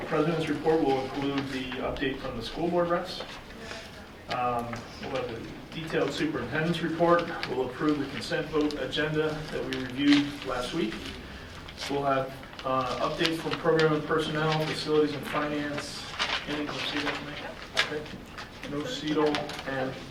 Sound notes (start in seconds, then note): 17.0 faintly speaking